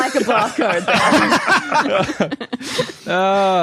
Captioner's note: group laughing